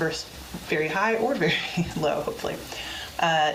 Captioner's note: laughs